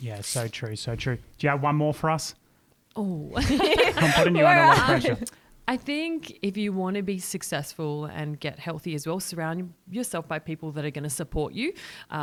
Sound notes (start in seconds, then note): 3.3 laughter